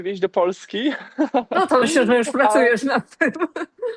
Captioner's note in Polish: śmiech